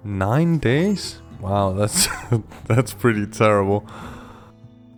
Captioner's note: laughing